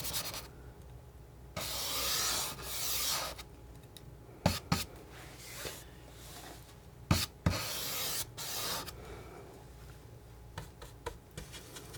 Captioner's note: scratching